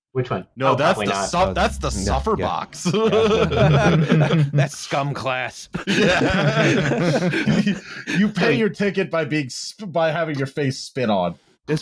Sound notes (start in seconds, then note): 2.8 laughter